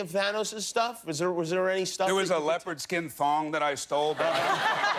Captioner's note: laughter